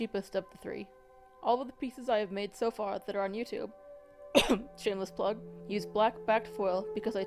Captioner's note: cough